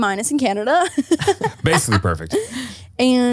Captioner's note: laughs